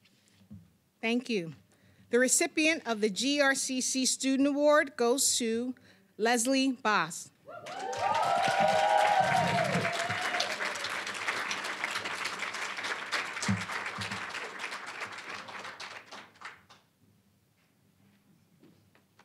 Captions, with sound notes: >> Thank you. The recipient of the GRCC Student Award goes to Lesley Bos. (applause, cheering)